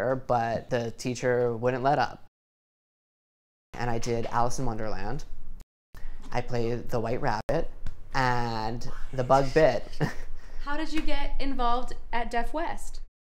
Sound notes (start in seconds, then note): 8.9 chuckles